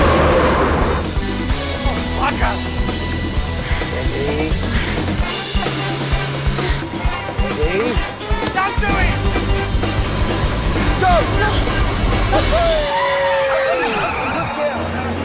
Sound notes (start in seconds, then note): 12.8 Alice laughing